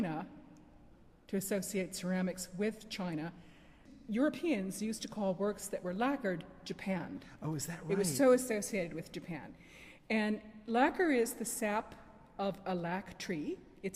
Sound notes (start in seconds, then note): 7.4 voiceover